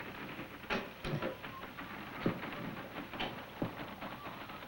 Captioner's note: whistling